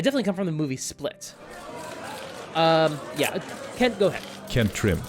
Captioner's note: crowd of reporters shouting